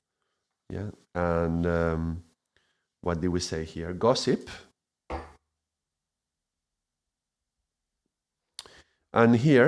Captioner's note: silence